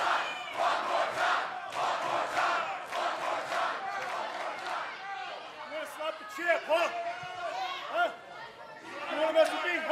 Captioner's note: fans chanting